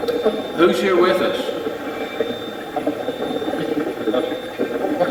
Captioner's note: Steve's Box chatters